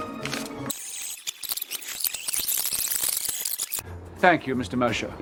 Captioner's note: backwards recording zips